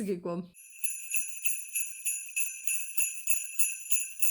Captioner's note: sleigh bells